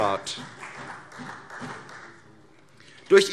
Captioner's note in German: Beifall CDU